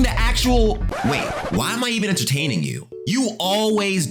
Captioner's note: record scratch